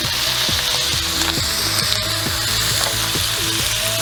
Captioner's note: sizzling